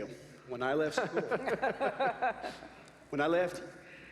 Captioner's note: laughter